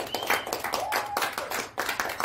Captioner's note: applause